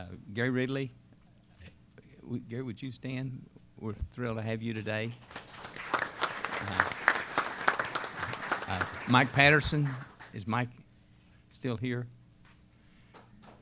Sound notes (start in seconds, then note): 5.2 applause